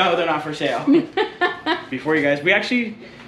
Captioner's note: laughs